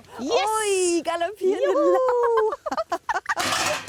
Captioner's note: laughs